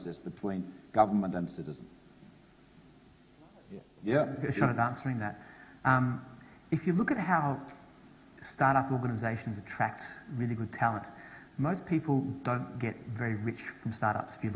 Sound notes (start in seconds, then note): none